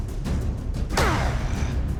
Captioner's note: grunt